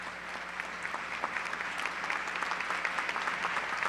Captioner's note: applause